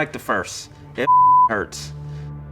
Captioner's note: beep